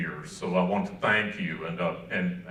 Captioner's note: none